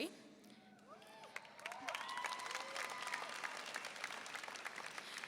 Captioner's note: applause and cheering